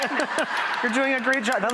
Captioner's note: audience laughing